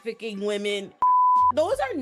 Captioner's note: beep